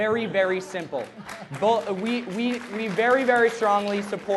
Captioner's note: applause